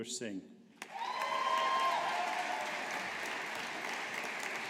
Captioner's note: audience applauding